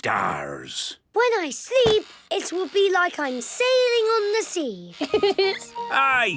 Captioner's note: laughing